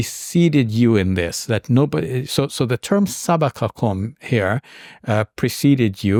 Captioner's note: speaks in Arabic